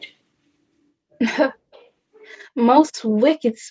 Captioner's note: scoffs